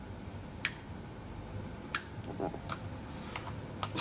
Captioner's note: crickets chirping; sharp exhales